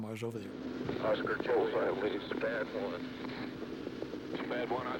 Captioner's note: radio chatters